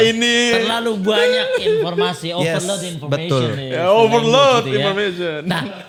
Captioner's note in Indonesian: tertawa